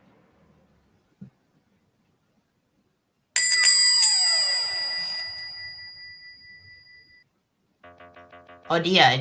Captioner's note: bookshop bell rings, door closes